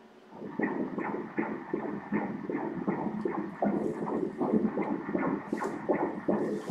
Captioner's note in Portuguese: batimentos cardíacos